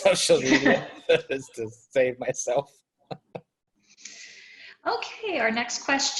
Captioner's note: chuckles